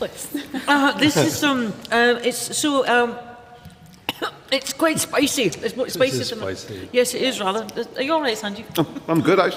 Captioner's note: coughs